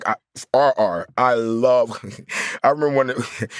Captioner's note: chuckles